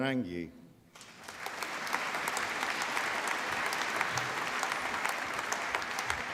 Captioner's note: applause